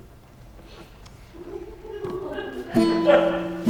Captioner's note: audience laughs softly; simple guitar chords